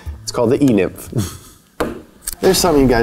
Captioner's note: chuckles